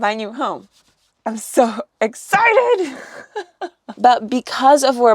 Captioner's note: laughs